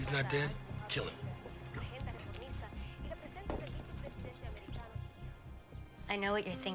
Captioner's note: reporter continues in Spanish